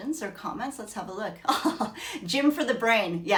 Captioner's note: chuckles